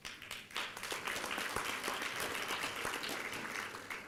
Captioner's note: applause